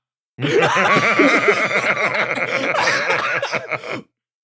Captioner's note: laughs